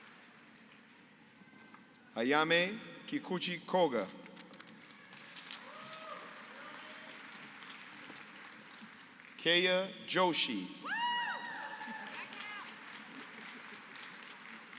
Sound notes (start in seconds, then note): 5.6 applause; 11.3 applause